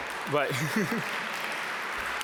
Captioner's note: laughs